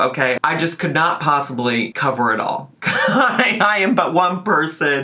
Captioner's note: laughs